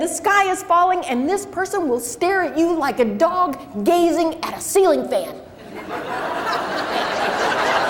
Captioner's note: crowd laughs